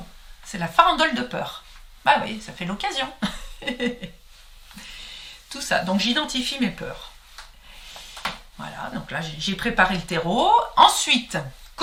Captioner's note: laughs